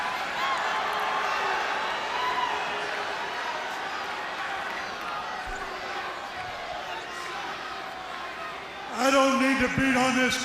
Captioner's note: crowd cheering